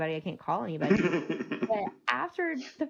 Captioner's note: laughing